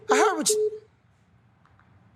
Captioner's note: line disconnects